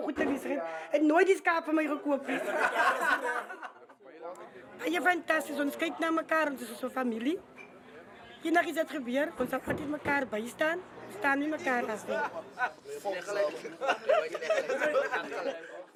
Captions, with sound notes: But to this day he hasn't bought me one! [LAUGHTER] It's fantastic here. We look after each other, we are like a family. If anything happens, we stand by each other. We never stand alone. [LAUGHTER]